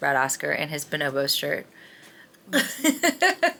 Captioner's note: laughing